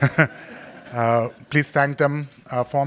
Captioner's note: laughing